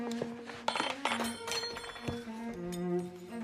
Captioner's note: spoon Clatters